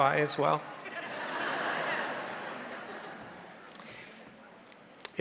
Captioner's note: audience laughing